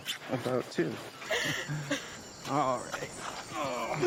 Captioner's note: Cassady laughs